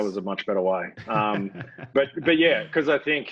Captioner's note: laughs